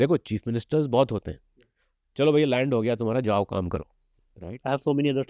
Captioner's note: speaks hindi